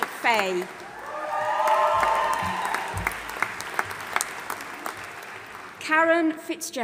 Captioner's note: audience applauding and cheering